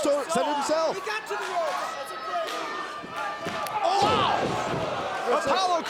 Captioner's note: crowd chatter